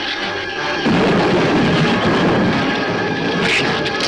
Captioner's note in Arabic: تصفيق الرعد; ثرثرة الزبابة